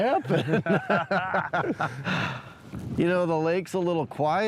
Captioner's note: laughter